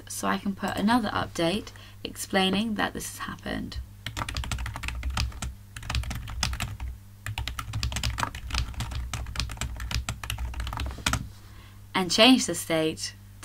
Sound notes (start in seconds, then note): 4.1 typing